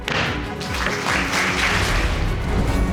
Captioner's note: gavel bangs; audience applauding